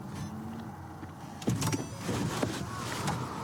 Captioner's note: car door opens